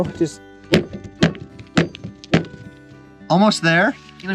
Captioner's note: hammer banging